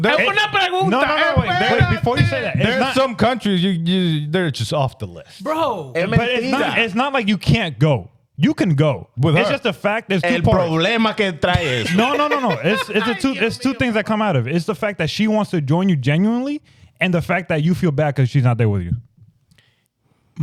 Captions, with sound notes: (Speaking In Foreign Language) some countries, they're just off the list. Bro. It's not like you can't go. You can go. It's just the fact that's two point-- (Speaking In Foreign Language) No, no, no, no. It's two things that come out of it. It's the fact that she wants to join you genuinely and the fact that you feel bad because she's not there with you.